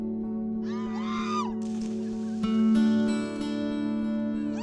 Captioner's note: women scream